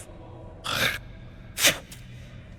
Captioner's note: spits